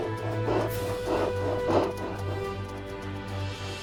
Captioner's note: Buck panting